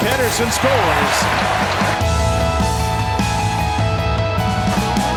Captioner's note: crowd cheering